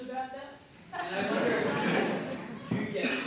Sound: audience laughs

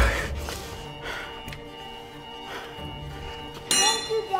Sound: metal clanging; school alarm beeping

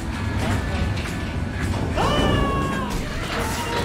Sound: screaming

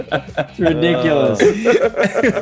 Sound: laugh

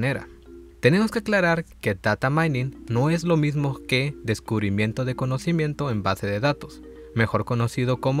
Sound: in Spanish

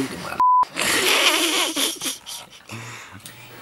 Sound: laughter

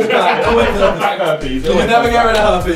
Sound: laughing

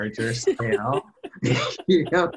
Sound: laughter

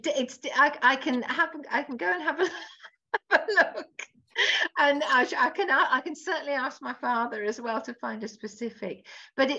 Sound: laughs

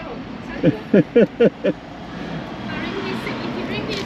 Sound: laughs

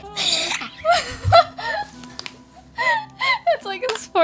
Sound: laughing

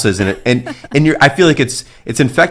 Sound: laughing

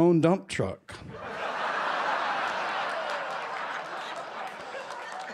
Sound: laughter

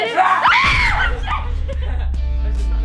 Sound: laughing; screaming

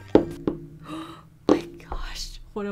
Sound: inhale dramatically

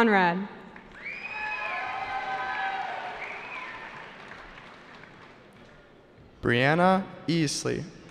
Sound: cheering

